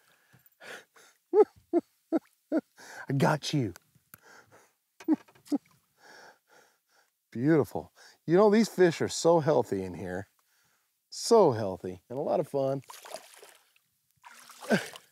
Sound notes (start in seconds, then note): 0.3 laughing; 4.8 laughs